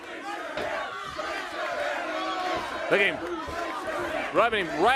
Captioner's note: crowd cheering